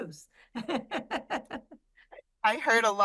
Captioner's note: laughs